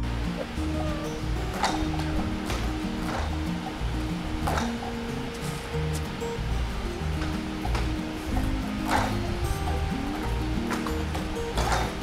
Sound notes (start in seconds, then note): 1.3 beam clattering; 8.8 beam clattering